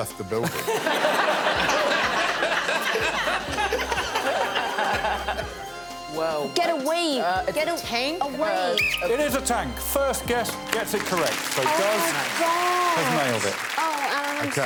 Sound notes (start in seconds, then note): 3.7 laughter